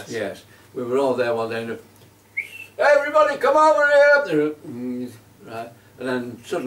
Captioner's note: makes whistle sound